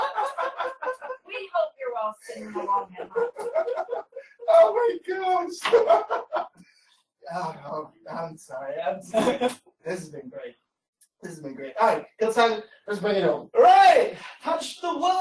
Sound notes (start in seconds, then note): 7.8 laughter